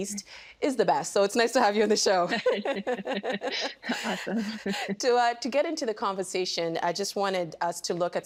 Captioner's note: laughter